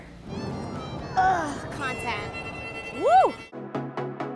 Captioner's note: groans